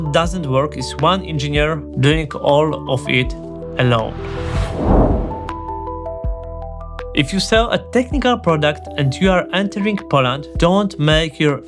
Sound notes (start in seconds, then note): 3.6 whooshing